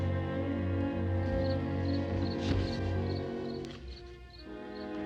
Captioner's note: insects chirping